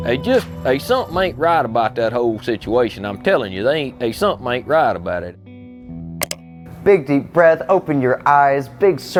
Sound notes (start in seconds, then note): 6.2 button clicks